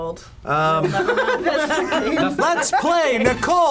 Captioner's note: group laughs